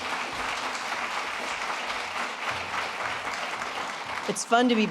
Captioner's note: applause